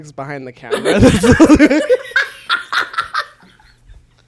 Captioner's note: both laugh